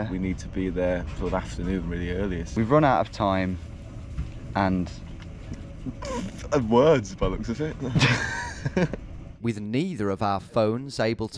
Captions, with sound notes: - We need to be there sort of afternoon, really earliest. - We've run out of time and... - (laughs) And words, by the looks of it. (both laugh) - With neither of our phones able